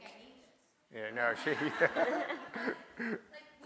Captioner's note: audience laughs; laughs